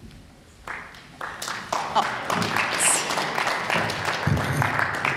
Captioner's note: applause